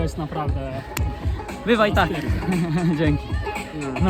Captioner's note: laughung